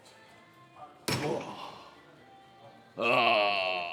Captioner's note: soft music; grunts